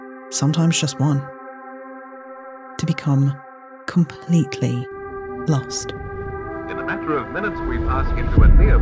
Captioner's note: old timey tv voice